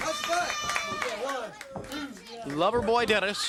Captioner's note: crowd cheering